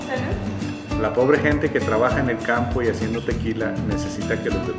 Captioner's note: in Spanish